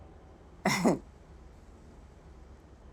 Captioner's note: boss laughs nervously